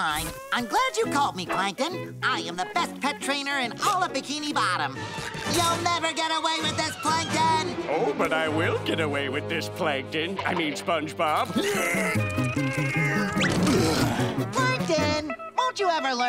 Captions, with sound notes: I'm glad you called me Plankton. I am the best pet trainer in all of Bikini Bottom. You'll never get away with this, Plankton! Oh, but I will get away with this, Plankton, I mean, SpongeBob. [grunting] Plankton, won't you ever learn?